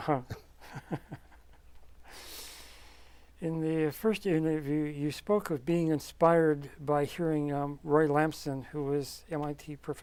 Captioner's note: laughs